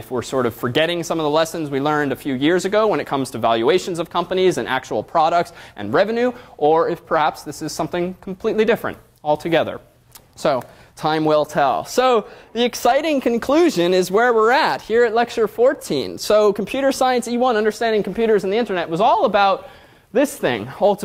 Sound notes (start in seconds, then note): none